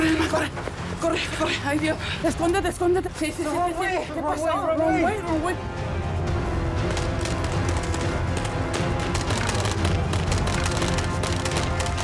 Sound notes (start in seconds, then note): 0.0 hurried breathing; 0.2 speaks hurriedly; 6.4 dramatic music; 6.9 airsoft guns firing